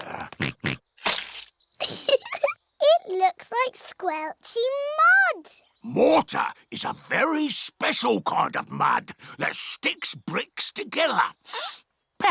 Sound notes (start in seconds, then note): 0.1 oinks; 1.8 giggles